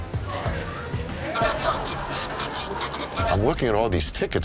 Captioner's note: tickets printing